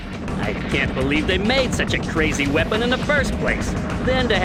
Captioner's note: game audio